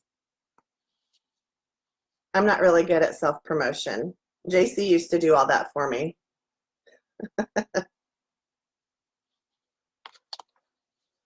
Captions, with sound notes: I'm not really good at self-promotion, JC used to do all that for me. (chuckles)